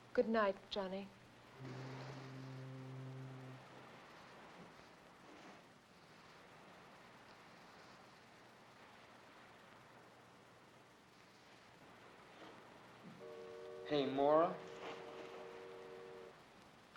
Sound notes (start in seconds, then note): 1.5 distant fog horn blows; 3.9 sound of ocean; 14.9 ship horn blows in distance